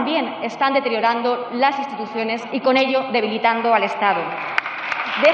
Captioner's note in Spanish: Aplausos